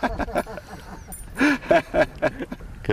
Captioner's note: laughter